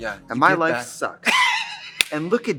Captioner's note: Katya laughs and laughs